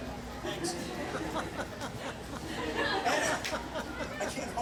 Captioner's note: audience laughs